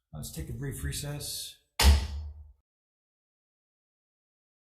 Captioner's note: gavel bangs